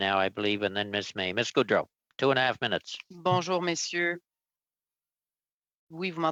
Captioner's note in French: voix de l'interprète